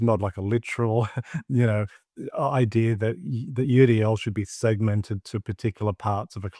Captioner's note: chuckles